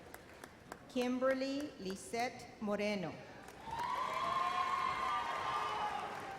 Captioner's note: audience cheers